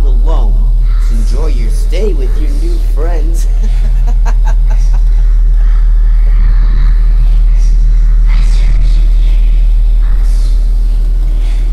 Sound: someone whispering

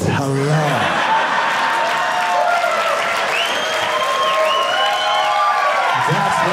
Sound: audience cheering

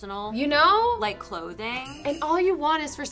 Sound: bells jingling

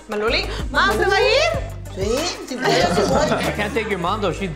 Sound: speaking in foreign language

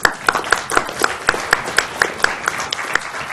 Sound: applause

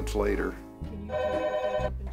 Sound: phone rings

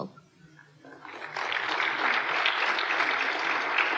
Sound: applause

